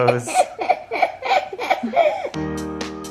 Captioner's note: laughing